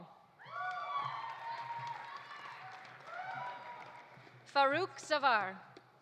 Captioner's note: audience cheering; audience applauding